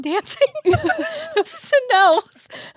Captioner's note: both laughing